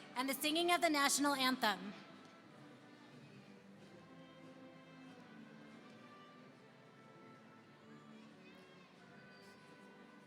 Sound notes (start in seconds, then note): none